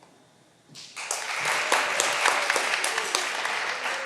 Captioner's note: all applauding